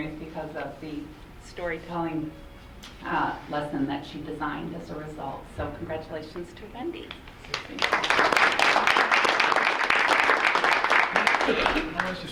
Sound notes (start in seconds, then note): 7.4 audience clapping